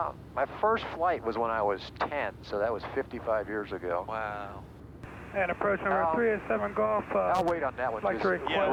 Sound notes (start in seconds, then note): 5.5 airplane traffic communicator